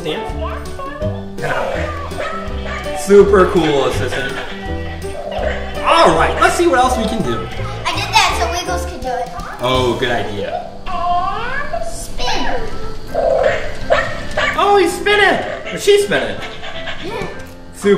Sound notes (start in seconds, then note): 13.2 barking